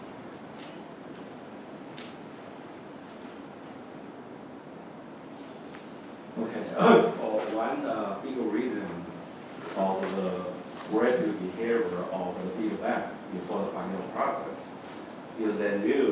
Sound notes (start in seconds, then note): 6.8 clears throat